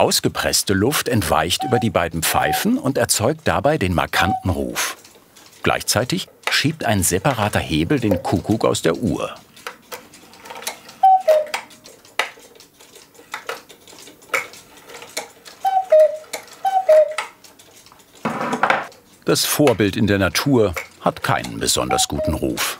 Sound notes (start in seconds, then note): 11.0 one time cuckoo call; 15.5 cuckoo call